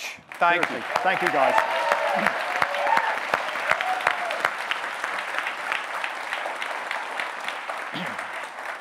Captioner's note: audience cheering, clapping; audience cheering